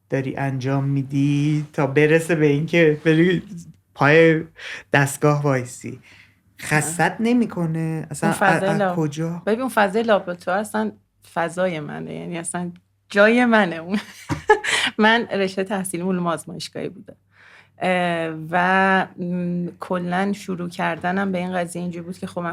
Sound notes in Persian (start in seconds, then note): 13.9 خنده